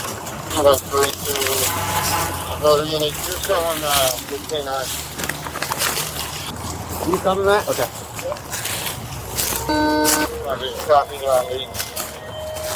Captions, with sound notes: (Radio chatter) (Radio chatter) Can you cover me? Okay (Radio chatter)